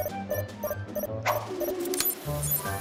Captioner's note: electronic beeping